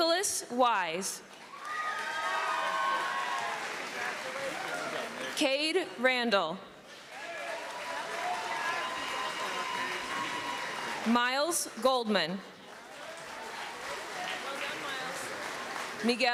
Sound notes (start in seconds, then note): 1.4 cheering; 8.9 applause